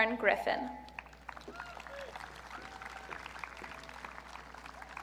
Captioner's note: audience cheering